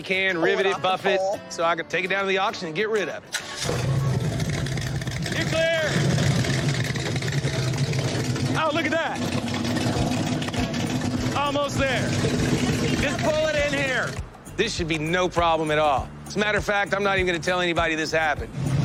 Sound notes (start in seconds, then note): 3.3 engine starts